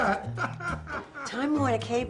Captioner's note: laughs